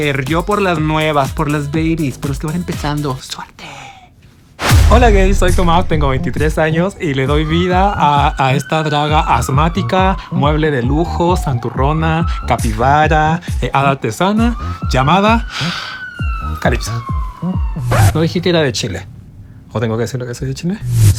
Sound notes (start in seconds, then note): 15.5 deep breath